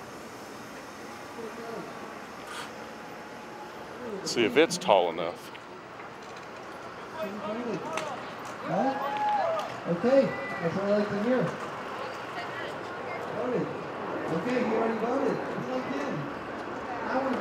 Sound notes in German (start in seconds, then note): 9.1 Beifall